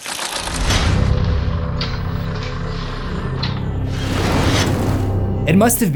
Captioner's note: impact